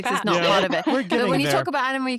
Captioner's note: laughs